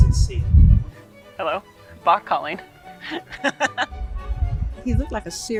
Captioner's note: laughs